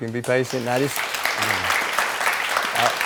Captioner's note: audience clapping